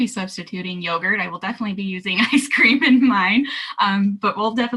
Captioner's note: laughing